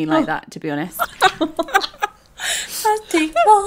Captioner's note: laughing